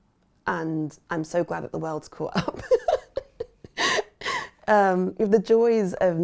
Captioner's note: laughs